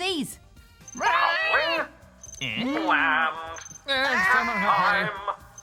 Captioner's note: make nonsense noises